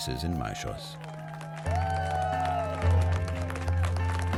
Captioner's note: cheering and applause